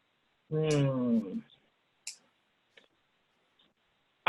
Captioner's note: hums